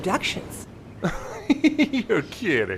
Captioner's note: man laughing